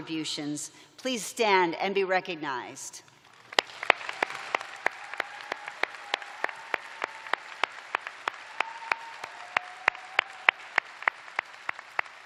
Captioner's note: cheers and applause